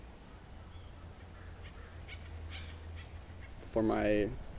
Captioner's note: birds chirping